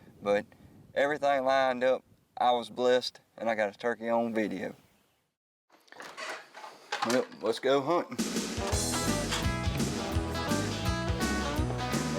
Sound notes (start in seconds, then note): 5.8 door creaking; 8.2 upbeat music